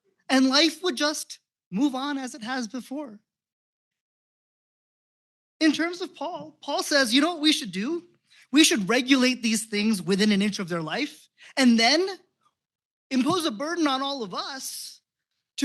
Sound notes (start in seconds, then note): none